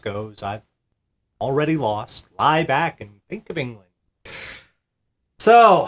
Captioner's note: tssss